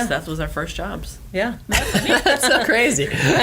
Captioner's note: laughter